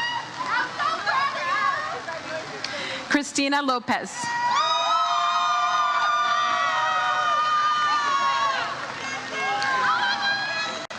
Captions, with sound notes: Christina Lopez. (audience cheers)